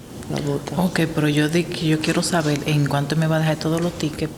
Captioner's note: speaking Spanish